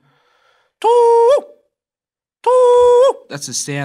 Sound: makes the call of the koel cuckoo, twice

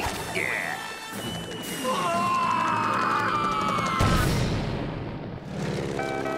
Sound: screaming

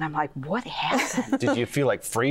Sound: laughter

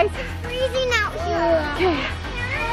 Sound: groans

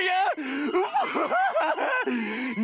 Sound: laughs

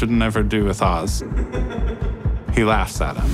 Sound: alberto laughs

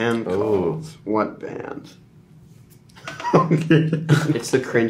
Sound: laughing

